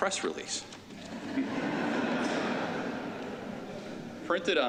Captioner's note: laughter